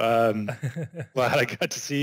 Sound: all laughs

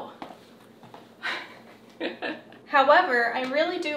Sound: chuckles

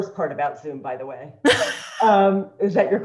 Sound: panel laughs

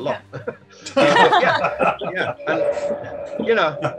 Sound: laughing

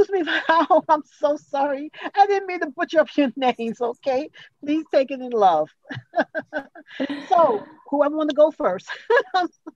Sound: laughs

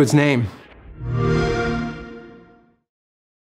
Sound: xbox sound

